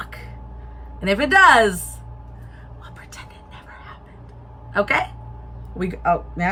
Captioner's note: whispers